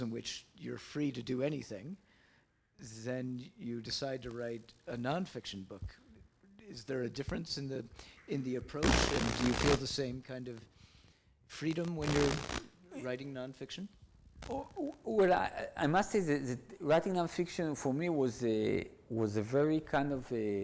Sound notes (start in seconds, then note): none